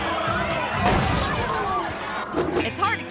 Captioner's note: tires squealing; car crashes